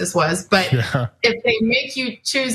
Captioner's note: laugh